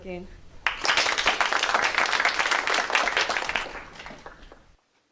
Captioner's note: applause